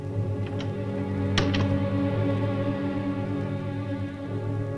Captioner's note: door closes